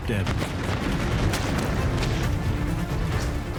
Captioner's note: gunshots